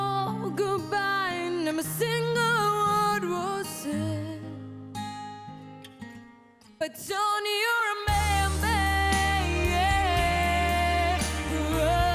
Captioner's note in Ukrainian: оплески